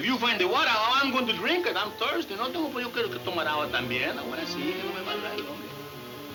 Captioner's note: speaking in foreign language; ominous music